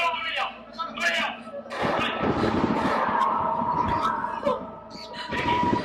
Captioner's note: gunshots